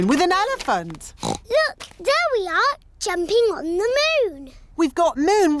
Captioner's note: oinks